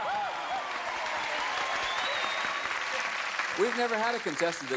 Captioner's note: cheers and applause